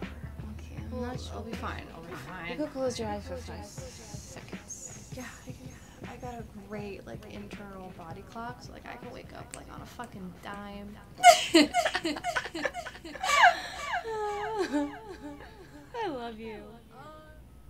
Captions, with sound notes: -I'm not sure... -I'll be fine, I'll be fine. -You can close your eyes for five seconds. -Yeah, I got a great internal body clock so I can wake up on a fucking dime. (echoed laughing) I love you.